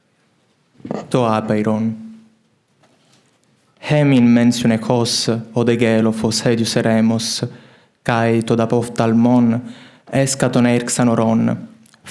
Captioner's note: Ancient Greek translation of L'Infinito is recited